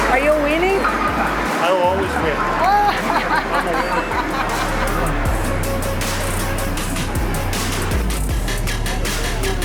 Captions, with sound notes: Are you winning? I always win. I'm a winner. [laughs]